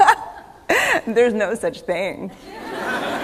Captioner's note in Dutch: Gelach